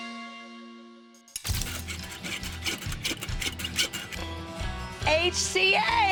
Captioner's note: sawing